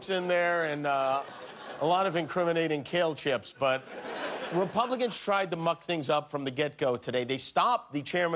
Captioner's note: laughter